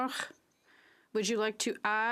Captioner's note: speaking French